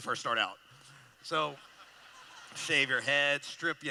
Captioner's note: laughter